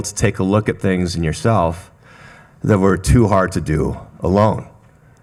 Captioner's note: none